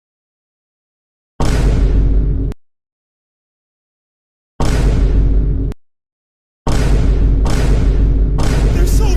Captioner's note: stock boom sound effects